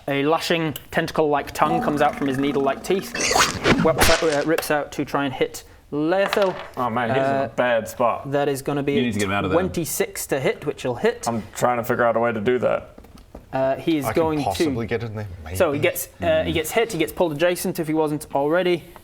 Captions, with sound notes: a lashing tentacle-like tongue comes out from his needle-like teeth *whoosh* rips out to try and hit Laethil Oh man, he's in a bad spot that is gonna be You need to get him out of there 26 to hit, which will hit I'm trying to figure out a way to do that - he is going to - I could possibly get in there, maybe So, gets, he gets hit he gets pulled adjacent if he wasn't already